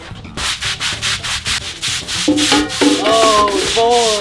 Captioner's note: vigorous scrubbing noises